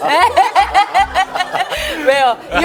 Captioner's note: the genuine laugh that rings cheerfully